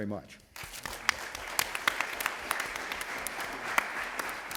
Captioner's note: applause